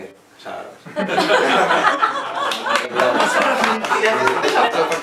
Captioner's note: laughs